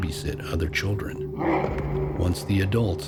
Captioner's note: Rougarou grunting